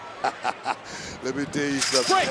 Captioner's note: laughs